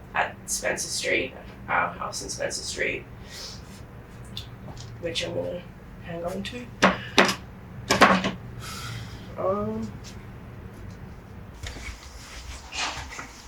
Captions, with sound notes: at Spencer Street, our house in Spencer Street. Which I'm going to hang onto, (painting clattering on floor)